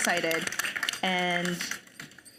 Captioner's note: audience applauding